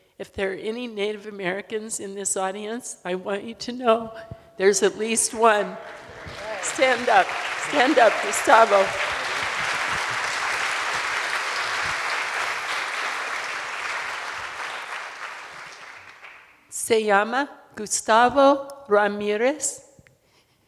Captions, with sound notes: if there are any Native Americans in this audience, I want you to know, there's at least one. Stand up, stand up, Gustavo. (audience applauding) Se llama Gustavo Ramirez,